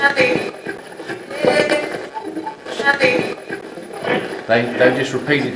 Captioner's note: radio voices